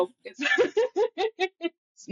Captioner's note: laughs